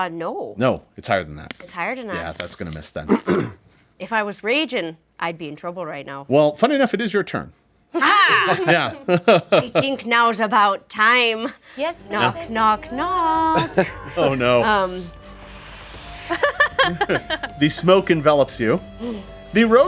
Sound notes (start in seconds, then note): 8.0 group cheers; 13.4 laughs